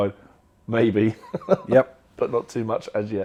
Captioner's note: laughter